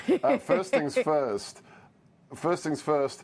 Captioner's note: laughter